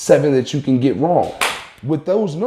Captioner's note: claps